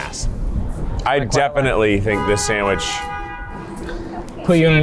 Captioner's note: car horn blaring